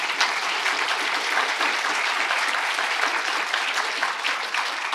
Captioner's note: applause